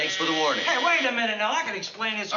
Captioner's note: telephone buzzes